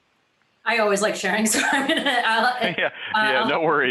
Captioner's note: laughs